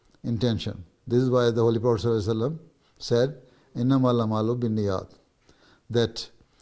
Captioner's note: Arabic